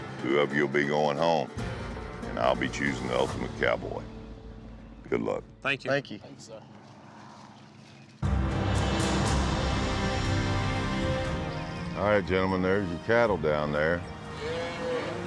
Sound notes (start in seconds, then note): 6.6 footsteps; 14.2 mooing